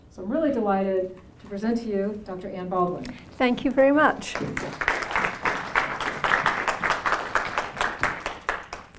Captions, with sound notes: So I'm really delighted to present to you Dr. Ann Baldwin. Thank you very much. [APPLAUSE]